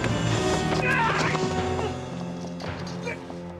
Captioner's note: ratapan